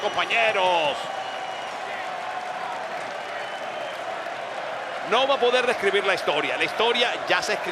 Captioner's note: applause